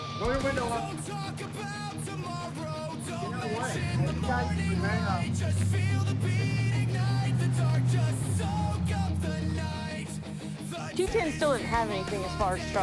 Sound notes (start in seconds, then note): 5.9 truck driving